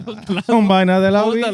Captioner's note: speaking Spanish